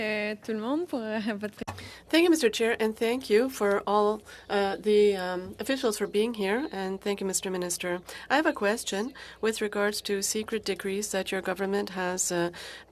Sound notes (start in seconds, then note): 1.9 speaking FRENCH